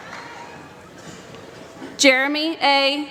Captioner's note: applause